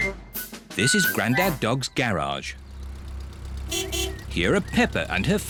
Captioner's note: horn beeps